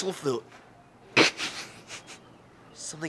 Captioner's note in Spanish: risas